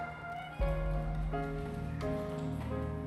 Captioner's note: cheering